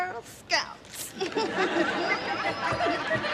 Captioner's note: chuckling